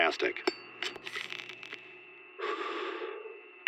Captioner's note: inhales, exhales; lighter clicks